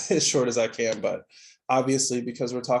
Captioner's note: laughing